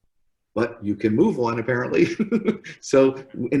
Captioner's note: laughs